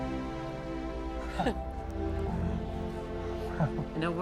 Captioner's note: soft chuckle